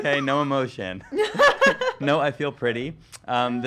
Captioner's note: laughing